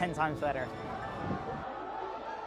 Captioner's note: cheers and Applause